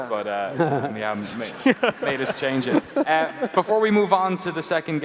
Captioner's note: laughs